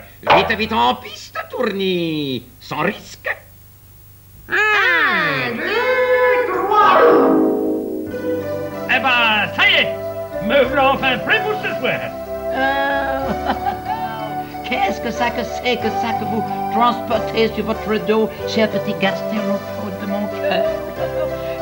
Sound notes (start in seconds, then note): 12.3 laughs